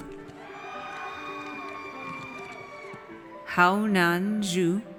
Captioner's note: audience cheers